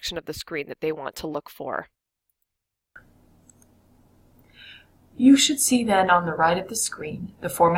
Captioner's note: video audio playing